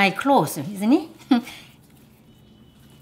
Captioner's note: soft laughter